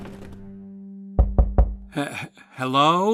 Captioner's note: knocking